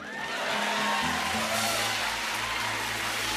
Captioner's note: cheers and applause